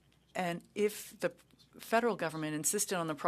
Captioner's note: speaking French